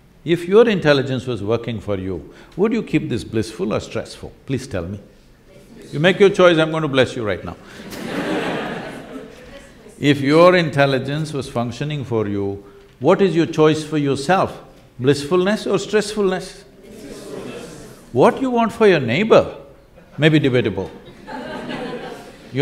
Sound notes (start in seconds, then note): 7.7 laughter; 21.0 laughter